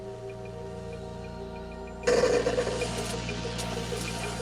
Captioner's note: white noise